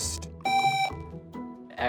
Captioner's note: buzzer